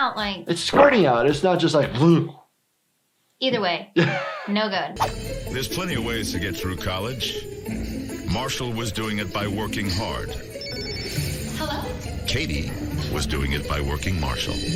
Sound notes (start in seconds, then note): 10.4 phone ringing